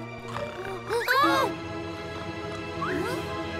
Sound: all gasp

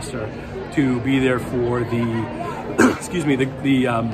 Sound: coughs

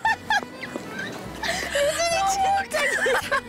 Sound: haha

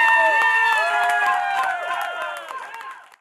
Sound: applause

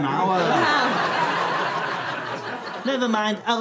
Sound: audience laughter

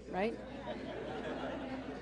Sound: laughter

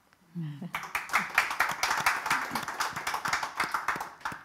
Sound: audience applauding

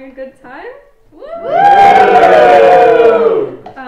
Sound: crowd cheers

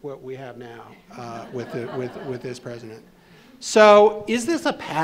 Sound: attendees laughing

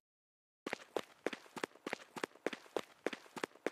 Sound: footsteps

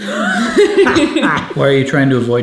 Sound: both laughing

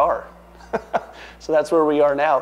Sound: laughs

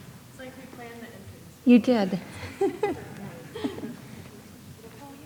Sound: laughs

